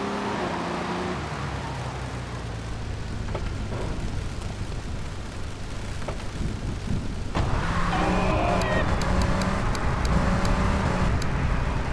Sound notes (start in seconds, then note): 3.4 sirens wailing